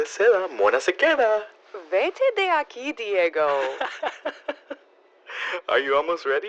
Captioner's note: laughs